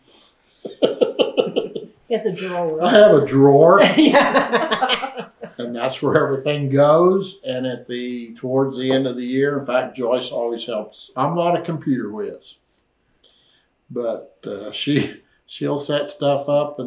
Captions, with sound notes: Well… (Laughs) He has a drawer. …I have a drawer. (Laughter) That’s where everything goes, and towards the end of the year—in fact, Joyce always helps. I’m not a computer whiz, but she’ll set stuff up.